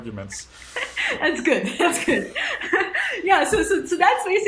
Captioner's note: laughing